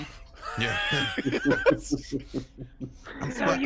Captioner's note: group laughs